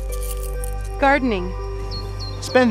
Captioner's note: shaking; birds chirping